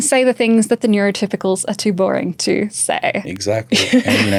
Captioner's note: chuckles